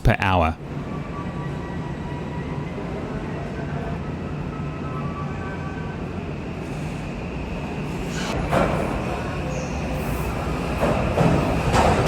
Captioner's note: train sounds